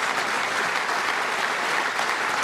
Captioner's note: applause